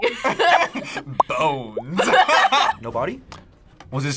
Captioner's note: both laugh